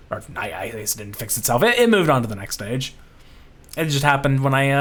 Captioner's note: none